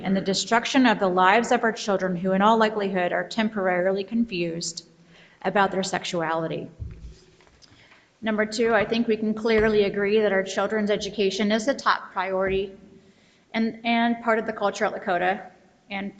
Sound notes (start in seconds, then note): none